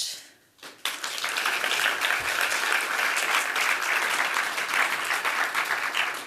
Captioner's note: applause